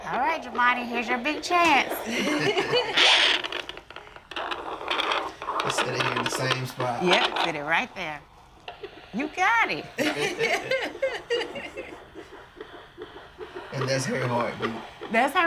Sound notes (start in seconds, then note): 1.9 parents laughing; 9.8 parents laughing